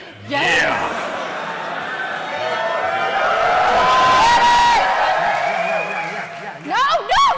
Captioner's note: cheering